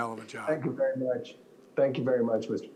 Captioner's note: laughs